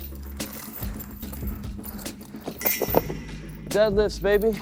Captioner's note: chains clunk